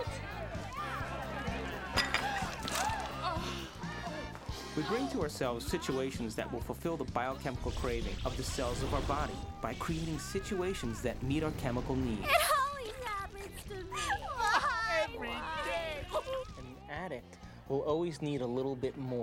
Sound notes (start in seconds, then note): 0.7 gasping